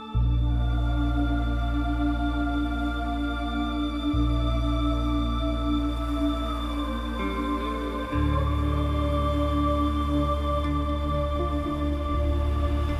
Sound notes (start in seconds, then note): none